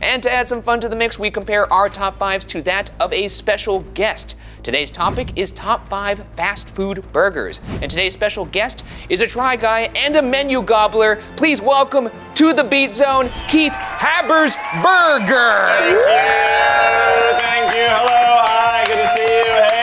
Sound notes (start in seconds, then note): 13.1 audience cheers